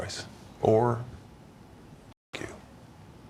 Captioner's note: muted